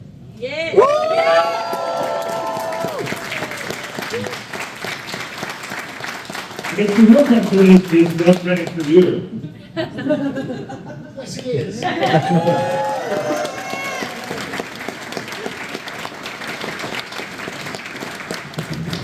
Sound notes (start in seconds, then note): 0.5 crowd cheers; 10.0 crowd laughs; 11.5 crowd cheers